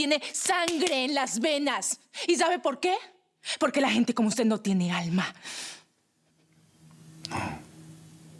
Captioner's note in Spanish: Manotazos